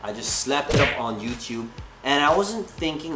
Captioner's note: hand slapping